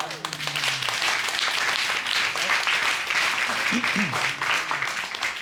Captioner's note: applause